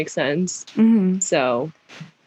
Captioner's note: mhmm